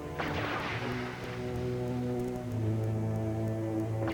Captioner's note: electricity crackling